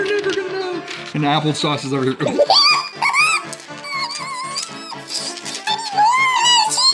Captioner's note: giggling